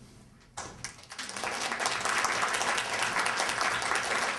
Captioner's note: applause